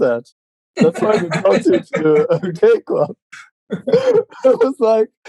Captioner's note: laughing